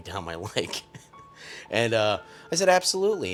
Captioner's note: chuckles